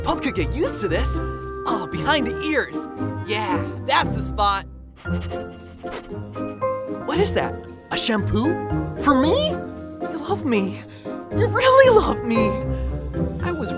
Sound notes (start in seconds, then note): 5.1 rapidly sniffing